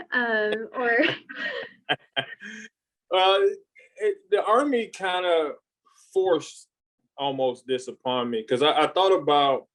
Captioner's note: laughs